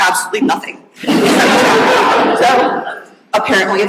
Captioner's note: audience laughing